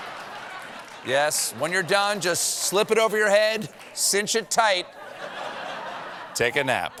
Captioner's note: laughter